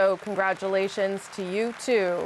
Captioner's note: applause